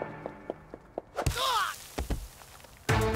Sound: grunting; tense music

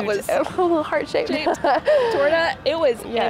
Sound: laughs

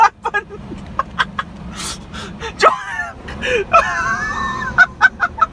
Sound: laugh

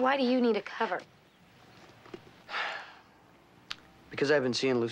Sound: sighs

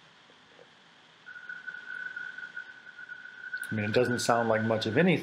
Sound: quiet, filtered tinamou sound

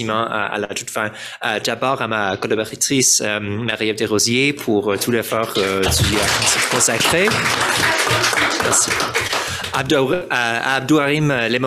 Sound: french

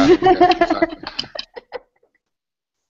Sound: laughter

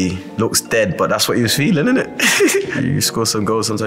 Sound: laughs

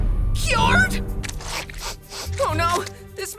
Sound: sniffing

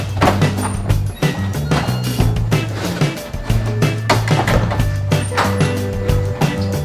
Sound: door opening and closing; bright cheerful music

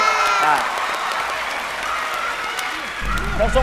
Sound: cheer and applause

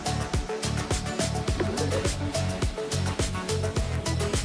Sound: laughs awkwardly

